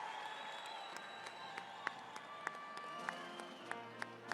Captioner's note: cheers and applause